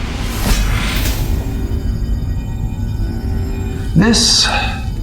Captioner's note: energy whirring